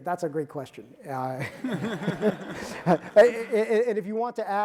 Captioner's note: audience laughing